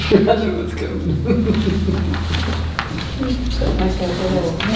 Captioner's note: laughs